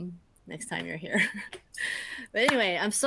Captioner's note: chuckles